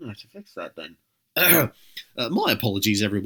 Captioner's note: ahem